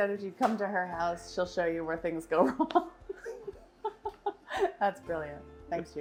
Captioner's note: laughs